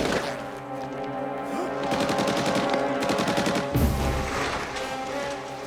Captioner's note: machine Gun Fire; shot Fired; machine Gun Fire